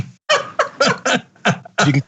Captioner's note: laugh